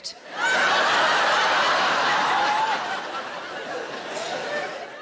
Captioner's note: audience laughing